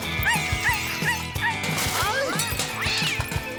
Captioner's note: champion whines